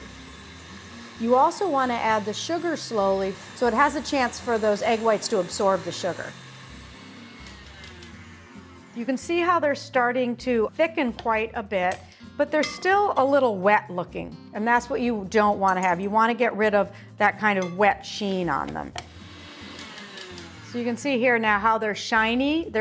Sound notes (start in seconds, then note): 19.0 mixer whirring